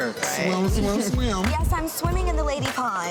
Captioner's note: person laughs